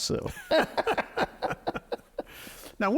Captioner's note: both laughing